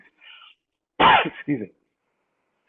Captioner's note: coughs